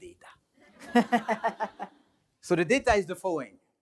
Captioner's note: laughing